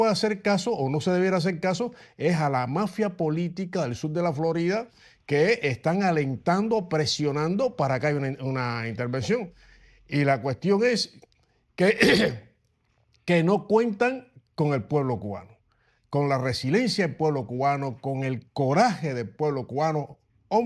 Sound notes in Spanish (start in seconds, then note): 11.9 carraspeo